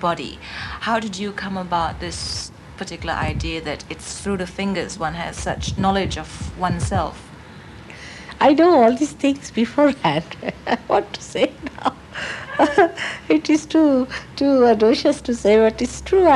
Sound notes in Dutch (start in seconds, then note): 12.1 lachend